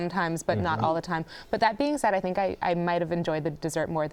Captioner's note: none